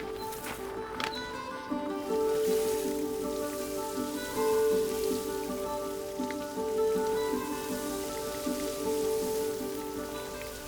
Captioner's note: water sounds